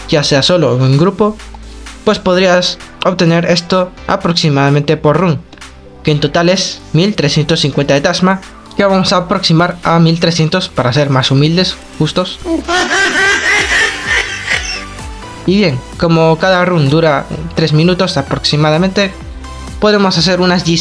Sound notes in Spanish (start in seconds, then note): 12.4 mujajajajajaja